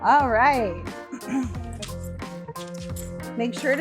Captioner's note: clears throat